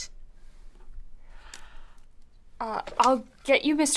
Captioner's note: gasps